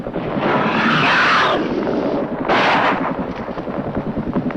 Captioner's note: gun firing; creature roaring